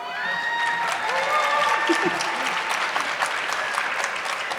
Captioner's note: audience clapping